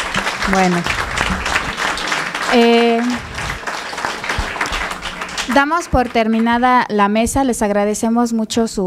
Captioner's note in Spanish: Aplausos